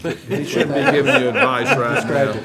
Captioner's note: audience laughing